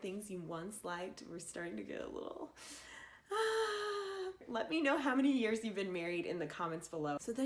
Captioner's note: deep sigh